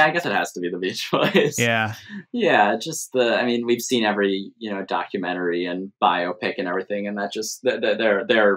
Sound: laughter

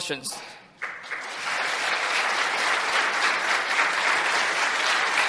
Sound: applause

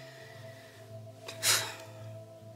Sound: sighs

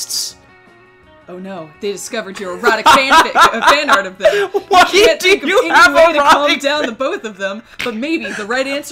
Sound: laughing

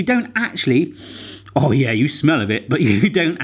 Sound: inhaling

